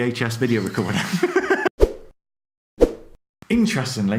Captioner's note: laughs